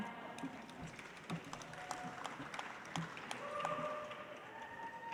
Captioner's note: audience applauds